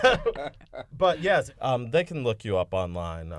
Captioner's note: laughter